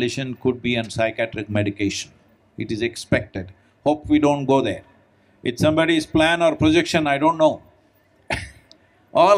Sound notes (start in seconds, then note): 8.4 laughs